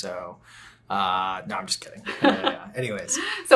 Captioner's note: laughing